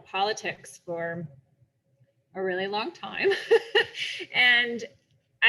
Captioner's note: laughs